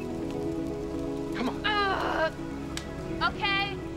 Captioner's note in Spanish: Aruna gruñendo